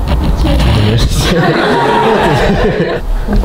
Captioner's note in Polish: śmiechy